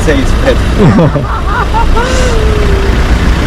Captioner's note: laughs